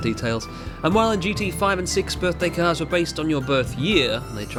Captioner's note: none